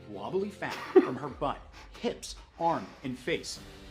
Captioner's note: chuckles